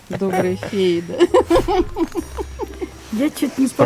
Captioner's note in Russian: смех